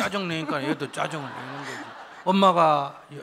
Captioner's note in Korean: 청중 웃음